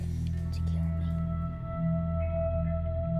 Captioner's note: whispering